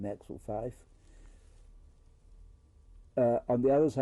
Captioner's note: pauses for 3 seconds